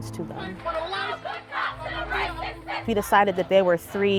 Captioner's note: protesters chanting